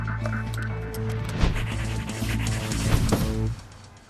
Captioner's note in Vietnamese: tiếng tẩy xóa